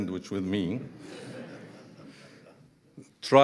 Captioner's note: audience laughing